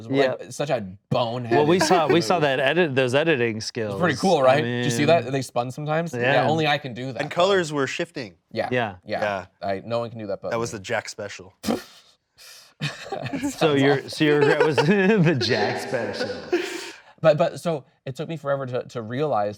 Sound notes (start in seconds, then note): 12.8 laughing